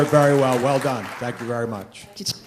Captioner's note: applause